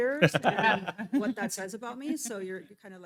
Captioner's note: laughing